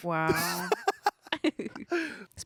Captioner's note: everyone laughs